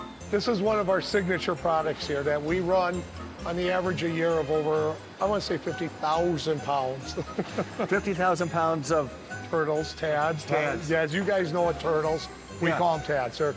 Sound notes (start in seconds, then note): 7.1 laughs